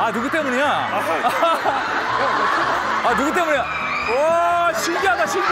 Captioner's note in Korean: 아하핫